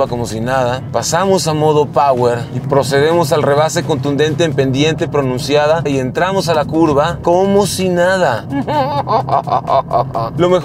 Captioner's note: laughter